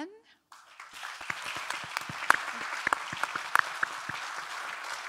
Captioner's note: audience applauding